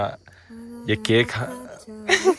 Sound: humming the Kenyan song

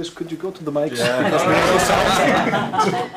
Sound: laughter

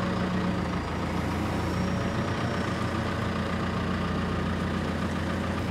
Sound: telehandler engine rumbling

